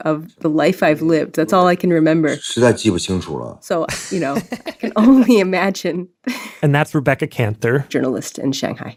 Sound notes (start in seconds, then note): 3.0 speaking Mandarin Chinese